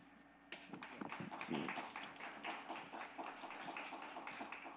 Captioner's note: audience claps